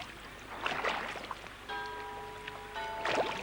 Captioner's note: bell tolling